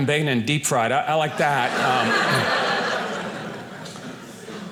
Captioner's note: audience laughing